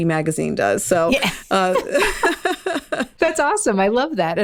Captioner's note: laughing